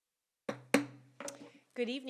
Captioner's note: gavel hitting dais